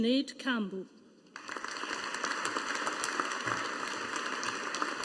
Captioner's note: audience applauding